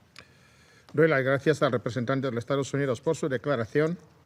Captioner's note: in Spanish